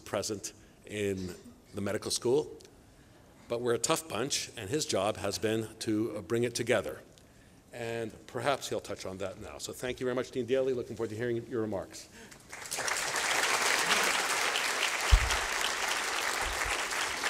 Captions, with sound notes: present in the medical school. But we're a tough bunch and his job has been to bring it together. And perhaps, he'll touch on that now. So thank you very much, Dean Daley, looking forward to hearing your remarks. [APPLAUSE]